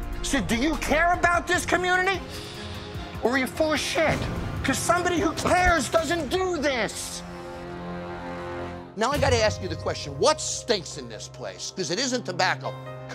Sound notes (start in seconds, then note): none